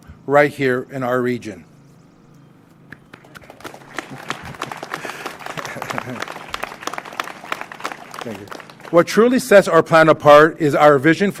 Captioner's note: applause